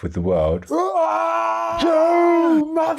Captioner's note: screaming